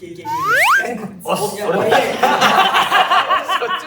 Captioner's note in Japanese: 笑い声